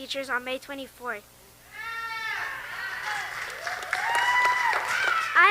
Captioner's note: audience members cheer and applaud